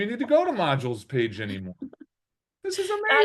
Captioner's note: laughing